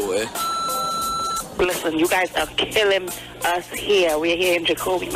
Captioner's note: phone ringing